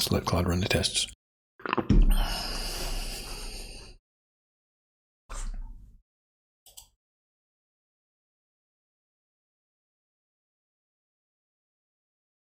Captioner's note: blank Audio